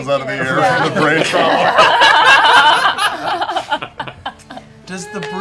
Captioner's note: laughter